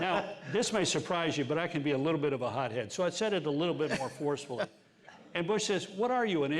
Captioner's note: laughter